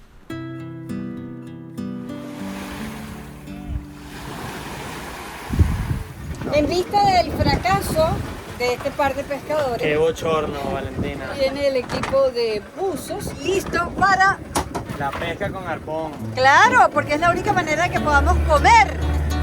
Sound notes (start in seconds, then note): 2.2 sound of the Sea